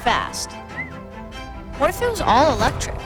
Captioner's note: lively music; person whistling